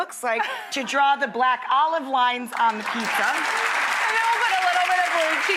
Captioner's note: audience claps